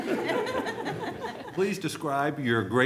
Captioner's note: laughter